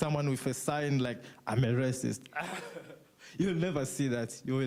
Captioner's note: laughs